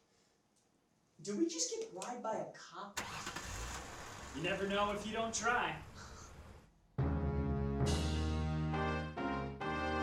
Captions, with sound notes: Did we just get bribed by a cop? (car engine starts) - You never know if you don't try. (upbeat music)